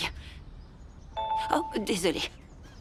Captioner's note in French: sonnerie de téléphone portable